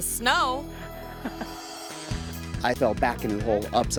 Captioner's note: friend giggles